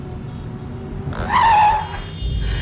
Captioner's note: tires screeching; car horn honking loudly